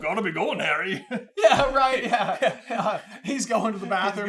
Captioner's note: laughter